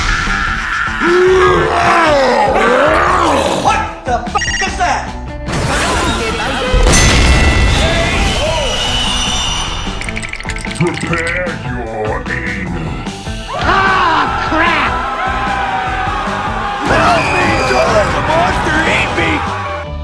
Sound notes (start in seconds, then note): 0.0 toad screaming; 1.0 ogre food grunting; 4.0 ding